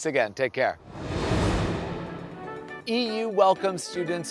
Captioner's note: air whooshing